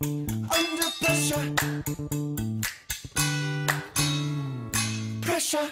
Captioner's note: fingers snapping